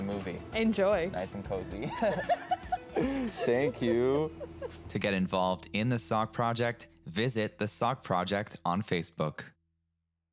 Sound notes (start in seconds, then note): 1.8 laughter